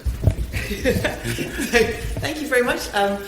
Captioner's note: laughter